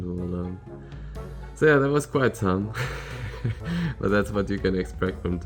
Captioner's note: chuckles